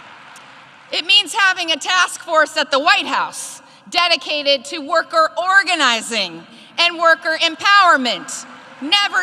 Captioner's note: applause